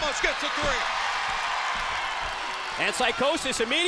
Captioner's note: crowd cheers